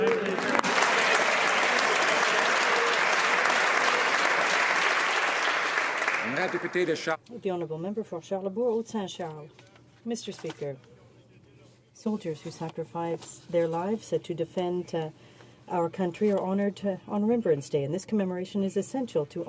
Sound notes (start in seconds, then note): 3.1 some Applause